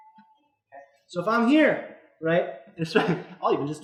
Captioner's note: instructor laughs